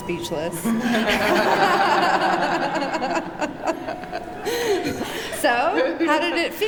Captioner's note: laughter